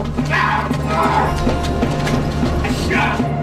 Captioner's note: screaming